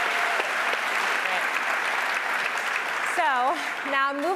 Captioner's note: applause